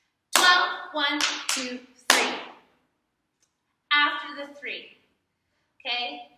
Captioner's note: clap